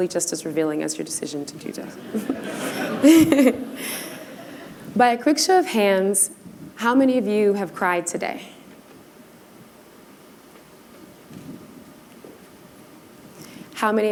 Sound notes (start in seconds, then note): 1.9 laughter